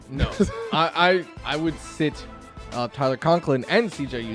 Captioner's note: laughs